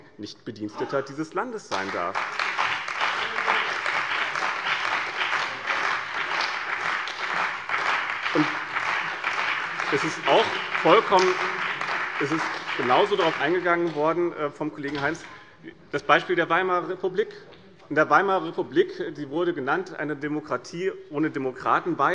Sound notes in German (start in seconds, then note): 4.6 Beifall bei dem BÜNDNIS 90/DIE GRÜNEN und der CDU